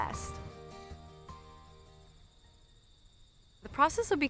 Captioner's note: crickets chirping